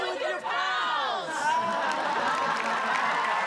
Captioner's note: audience laughing; audience applauding